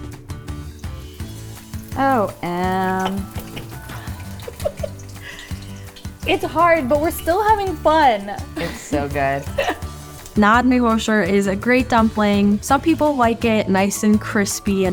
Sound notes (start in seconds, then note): 4.3 laughing